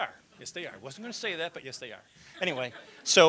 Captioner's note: laughter